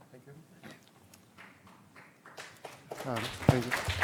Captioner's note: applause